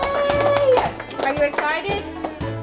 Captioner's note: clapping